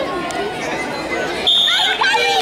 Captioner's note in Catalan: La gent anima; Xiulet